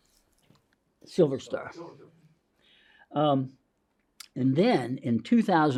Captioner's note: people chattering faintly